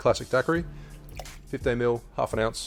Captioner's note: juice pours